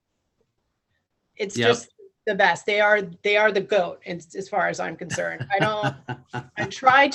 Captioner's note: laughs